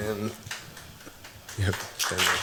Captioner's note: applause